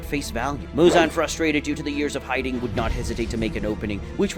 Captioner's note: normal tone